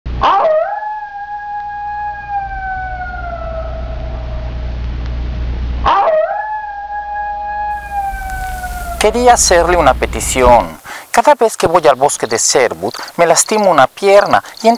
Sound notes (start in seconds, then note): 0.2 wolf Howl; 5.8 wolf Howl